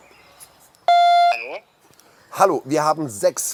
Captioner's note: loud beeping